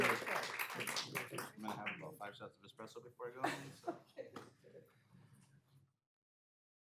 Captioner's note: applause